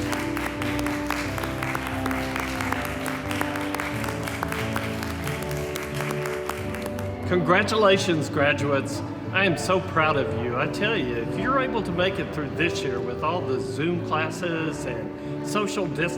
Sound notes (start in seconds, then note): 0.0 crowd applauding